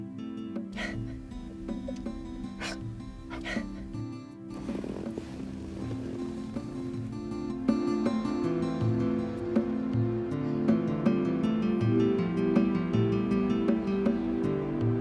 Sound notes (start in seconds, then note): 0.8 Lucy crying